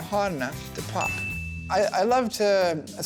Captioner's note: bell dinging